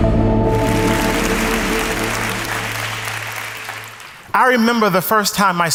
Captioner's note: audience applauds